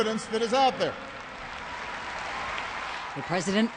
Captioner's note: applause